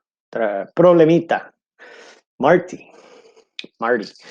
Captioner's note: speaking in foreign language